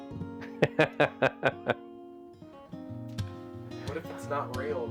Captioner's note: laughing